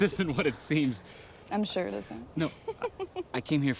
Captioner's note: laughs